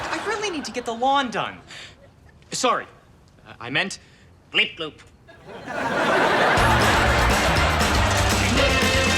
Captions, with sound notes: I really need to get the lawn done. Sorry, I meant, bleep-bloop. (audience laughs) (upbeat music)